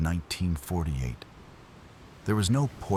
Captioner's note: wind Blowing